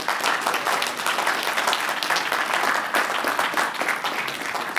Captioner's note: applause